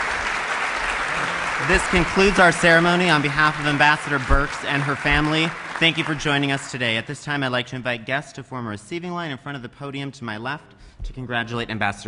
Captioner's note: applause